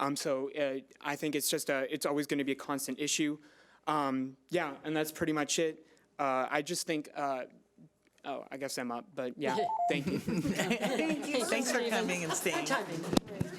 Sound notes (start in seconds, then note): 9.5 timer trills; 9.9 group laughs